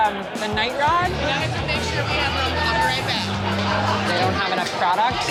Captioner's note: crowd chatter